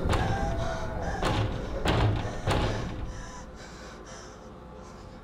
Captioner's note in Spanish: Golpeando la puerta